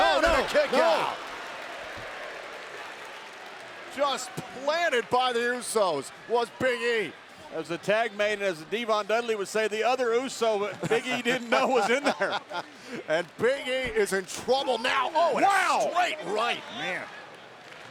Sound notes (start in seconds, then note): 10.8 laugh